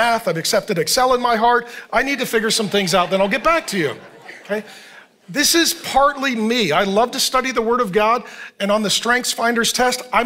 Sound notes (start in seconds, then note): 4.3 congregation laughing